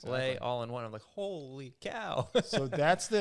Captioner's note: laughs